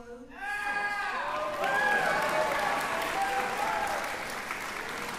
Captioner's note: applause